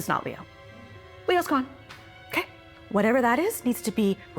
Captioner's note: hand smacks